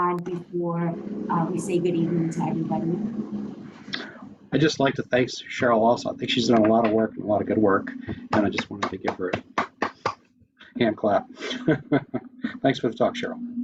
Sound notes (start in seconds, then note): 8.0 clapping